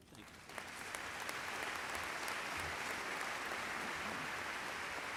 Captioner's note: audience applauds